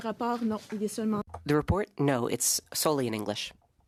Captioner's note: speaking French